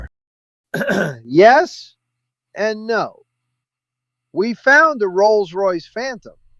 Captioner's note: clears throat